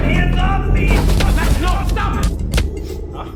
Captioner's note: punches thudding